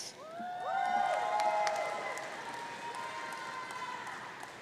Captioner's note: audience cheering